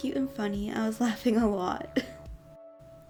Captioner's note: chuckles